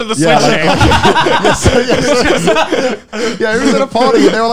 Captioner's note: laughing